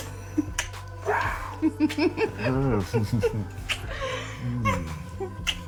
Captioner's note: giggling; sensual music